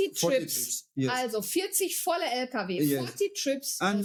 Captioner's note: speaking foreign language